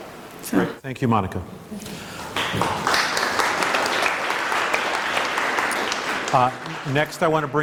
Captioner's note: applause